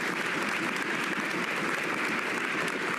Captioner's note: cheers and applause